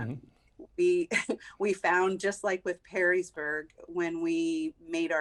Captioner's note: chuckles